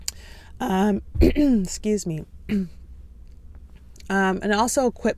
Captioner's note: clears throat